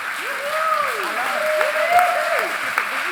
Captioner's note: audience cheering; audience cheering and applauding